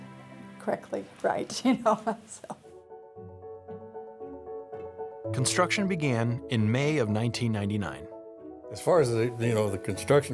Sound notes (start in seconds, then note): 1.6 laughs; 4.5 piano music